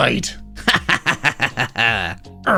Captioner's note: laughing